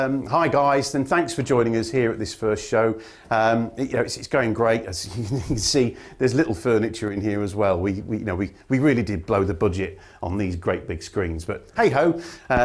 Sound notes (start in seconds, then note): 5.1 chuckle